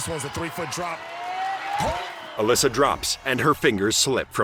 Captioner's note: cheering